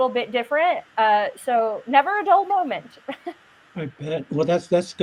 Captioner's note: laughs